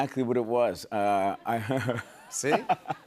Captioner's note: chuckles